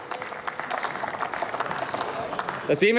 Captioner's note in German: Applaus